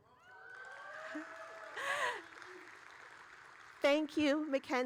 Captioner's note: audience cheering